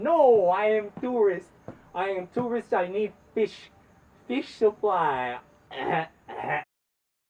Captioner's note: coughs